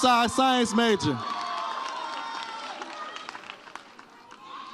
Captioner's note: audience cheers